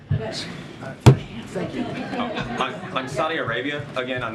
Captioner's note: laughter